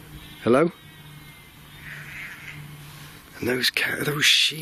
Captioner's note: sheep bleating